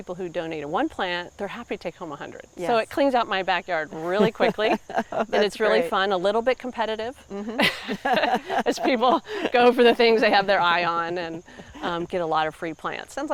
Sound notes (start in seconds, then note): 7.3 both laughing